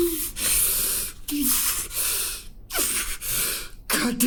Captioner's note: Pete whimpers